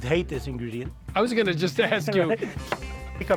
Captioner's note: chuckling